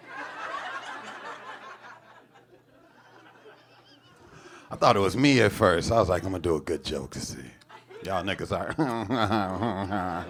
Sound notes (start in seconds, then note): 0.0 audience laughing; 4.0 chuckles; 8.8 imitates simpering laughs